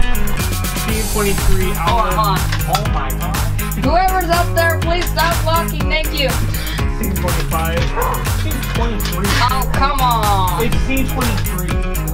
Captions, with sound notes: Scene 23 alpha- Hold on, hold on. Oh my gosh. Whoever's up there, please stop walking, thank you. Scene 25... (dog barking) Scene 23. Oh, come on. It's scene 23.